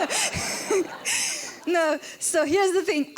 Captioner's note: laughter